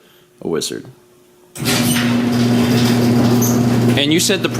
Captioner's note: presses button again, garage door noises